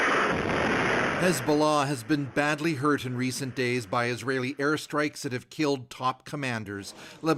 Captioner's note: explosions